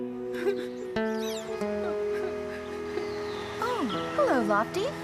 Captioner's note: crying Softly